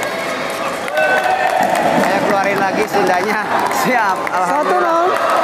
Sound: applause

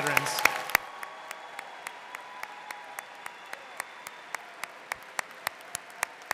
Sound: audience cheering and applauding

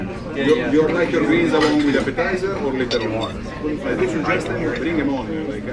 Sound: server talking to nearby table

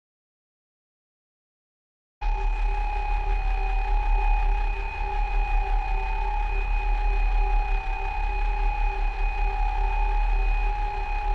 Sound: sound of creepy alarm

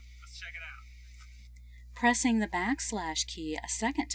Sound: voiceover - female speaker

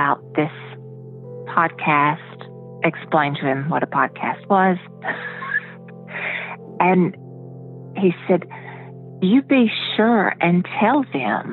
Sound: laughs

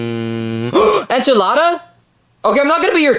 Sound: gasps

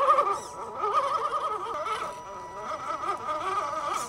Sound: engine whining

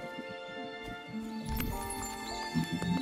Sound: sparkle

